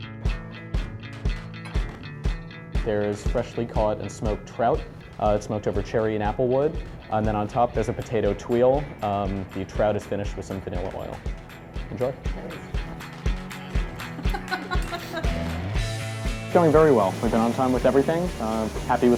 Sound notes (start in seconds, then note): 13.9 laughing